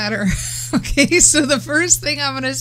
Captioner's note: laughing